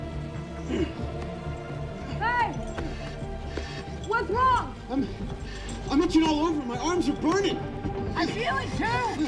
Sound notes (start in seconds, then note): 0.6 groaning